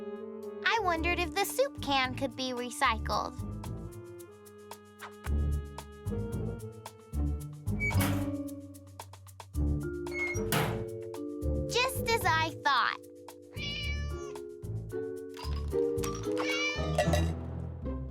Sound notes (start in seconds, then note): 13.5 meowing